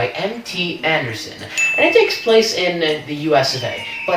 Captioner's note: ding